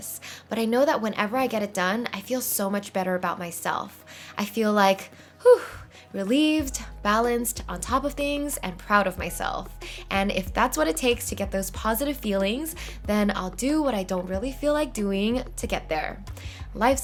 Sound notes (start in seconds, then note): 4.8 exhale